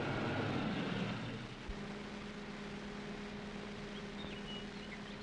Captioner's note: birds chirping